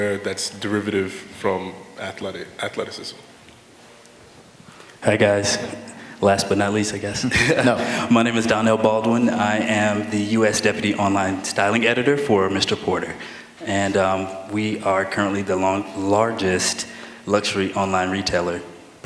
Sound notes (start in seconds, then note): 7.2 laughter